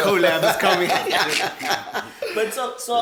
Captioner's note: laughs